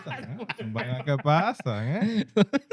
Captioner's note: laughing; speaking In Foreign Language